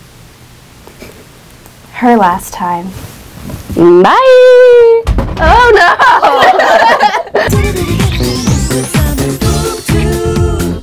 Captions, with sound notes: Her last time. BYE!!!!!!!!! OH NO! [both laugh] [Upbeat musical theme plays]